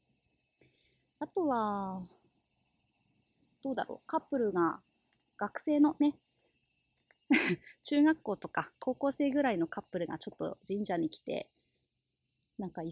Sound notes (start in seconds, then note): 7.3 laughs